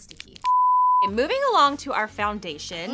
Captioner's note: beep